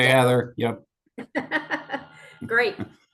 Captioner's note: laughs